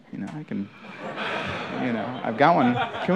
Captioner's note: laughter